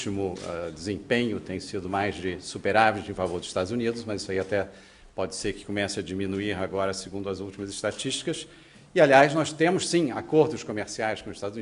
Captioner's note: in Portuguese